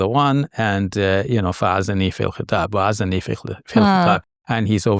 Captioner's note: speaks a foreign language